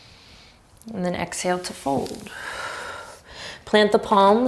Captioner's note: deep breath